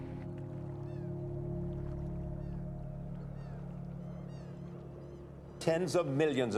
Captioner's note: light, somber music; birds cawing